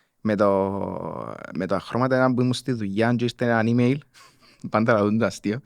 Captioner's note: laughs